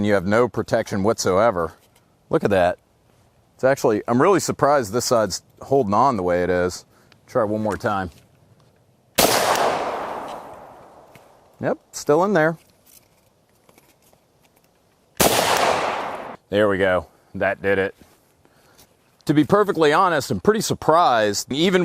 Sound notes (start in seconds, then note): 9.2 gunshot; 15.2 gunshot